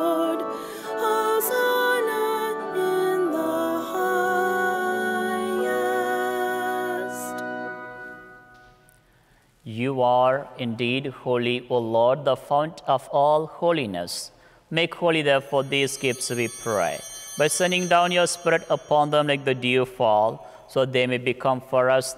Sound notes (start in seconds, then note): 15.3 chimes ringing